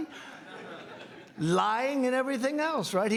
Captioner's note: laughing